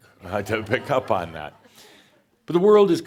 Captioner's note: more chuckles